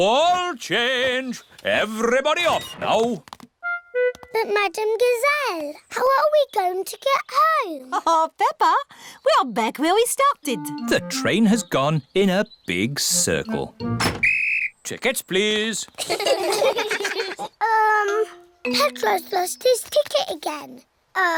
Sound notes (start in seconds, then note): 14.1 blows whistle; 16.0 all laugh